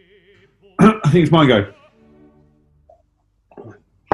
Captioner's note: clears throat